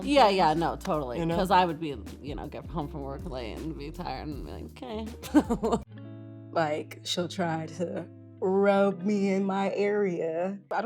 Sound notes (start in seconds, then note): 5.2 laughs